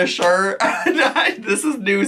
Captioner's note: laughing